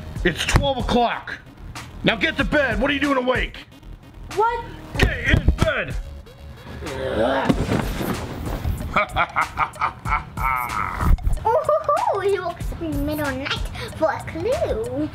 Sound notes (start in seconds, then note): 8.8 laughing